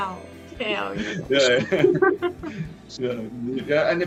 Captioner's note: Смех